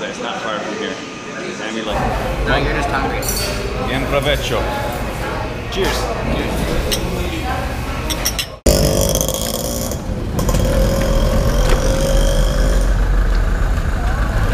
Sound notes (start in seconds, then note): 8.0 glasses clinking; 9.3 traffic driving